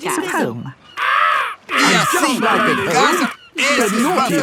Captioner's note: seagull cries